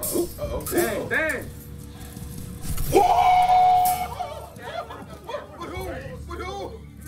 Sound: laugh; laugh

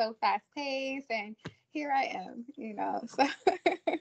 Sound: laughs

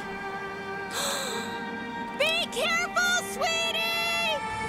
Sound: gasping

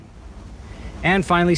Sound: geyser roaring

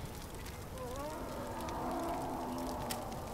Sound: wild animal roaring

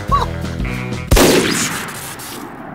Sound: bang

